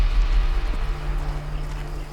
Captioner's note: birds chirping